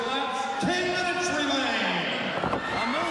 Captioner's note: Sting thudding on ring